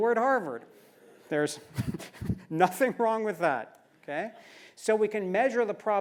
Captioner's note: laugh